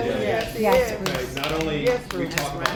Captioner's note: applause